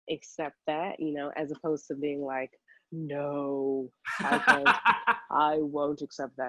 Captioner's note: laughing